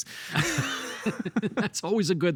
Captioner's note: both laughing